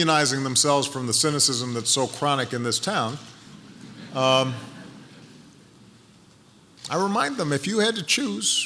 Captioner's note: laughter